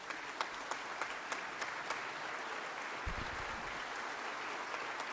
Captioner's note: members clapping